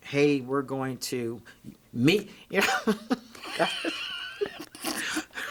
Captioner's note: both laughing